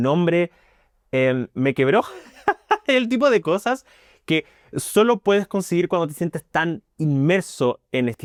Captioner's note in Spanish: risas